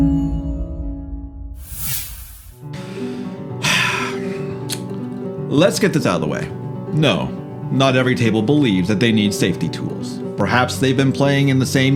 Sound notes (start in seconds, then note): 3.5 sigh